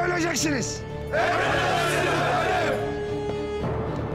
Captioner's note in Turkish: Hep bir ağızdan